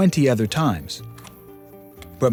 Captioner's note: camera clicks